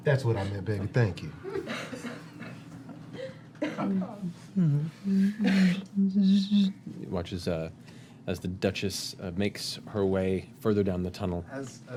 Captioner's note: humming